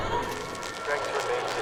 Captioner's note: electrical fizzling